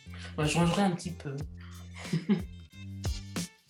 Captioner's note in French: rires